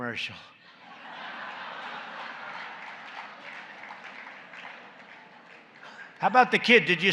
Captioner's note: laughter and applause